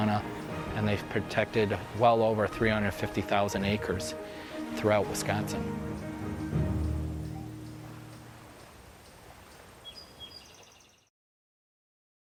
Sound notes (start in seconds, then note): 6.9 waves lapping, bird chirping